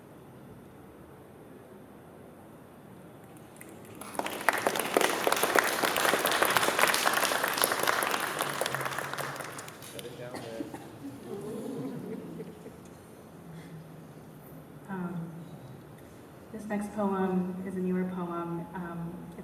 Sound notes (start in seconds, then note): 3.3 applause; 10.3 laughter